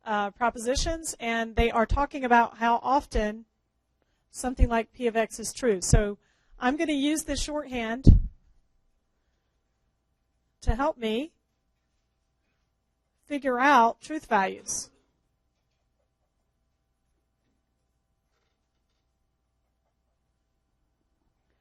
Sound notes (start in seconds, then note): 15.0 pause